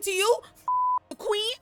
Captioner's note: beep